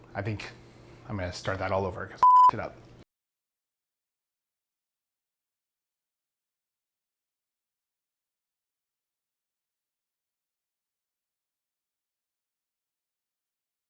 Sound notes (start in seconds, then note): 2.2 beep